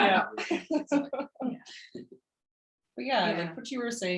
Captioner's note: speaks faintly